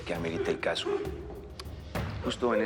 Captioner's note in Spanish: Sollozos